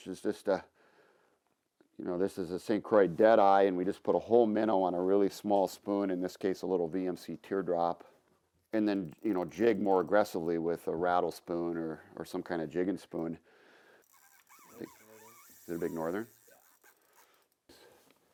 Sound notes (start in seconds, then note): 14.0 fishing reel buzzing